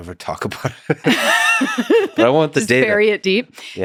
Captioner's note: both laughing